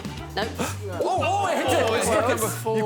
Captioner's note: all laughing